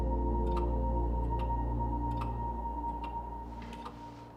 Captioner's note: clock ticking